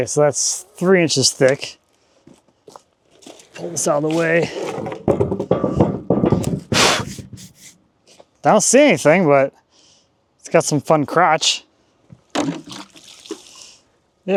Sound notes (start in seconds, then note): 4.6 wood clanging; 6.7 blowing; 12.7 water splashing